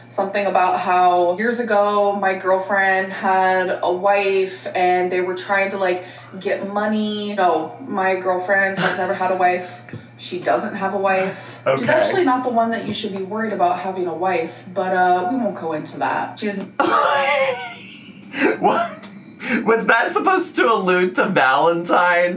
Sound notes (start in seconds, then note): 16.8 laughs